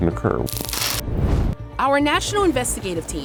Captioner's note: electricity crackling; fire roaring